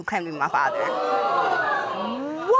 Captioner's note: audience exclaiming